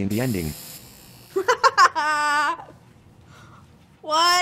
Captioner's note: laughing